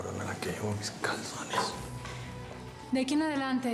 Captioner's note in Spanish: entre dientes